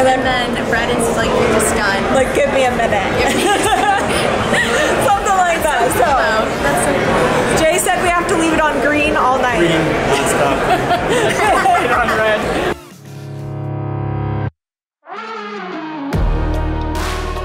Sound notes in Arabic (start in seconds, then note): 3.3 يضحك كريستال; 10.1 الكل يضحك; 13.0 موسيقى الروك الجريئة